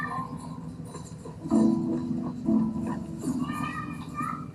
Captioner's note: children yell in play